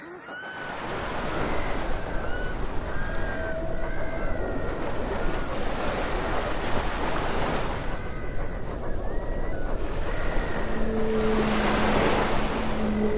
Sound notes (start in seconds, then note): 3.1 waves lap; 10.6 whales sing